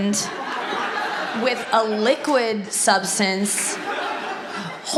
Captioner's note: audience laughs